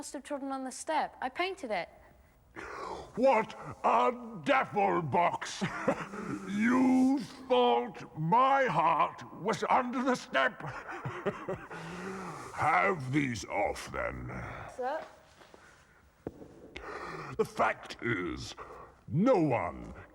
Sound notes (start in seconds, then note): 11.9 laughing